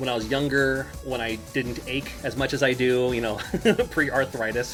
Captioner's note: laughs